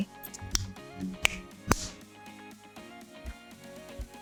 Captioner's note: cap clicking